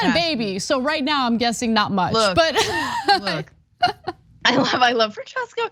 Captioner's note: laugh